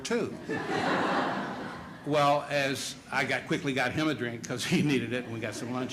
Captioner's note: laughter